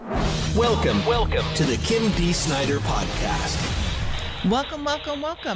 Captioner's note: voice-over